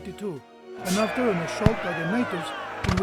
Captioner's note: battle sound effects